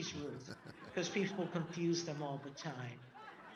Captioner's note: audience laughing; laughing